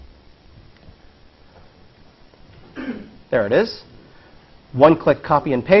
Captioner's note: cough